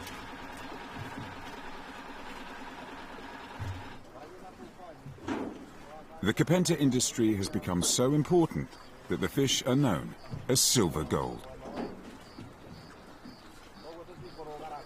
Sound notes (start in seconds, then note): 6.8 crickets chirping